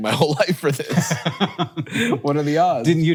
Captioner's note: Hank chuckles